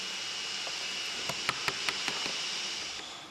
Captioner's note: hamming